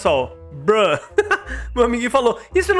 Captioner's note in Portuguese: risos